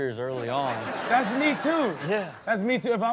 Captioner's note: audience laughs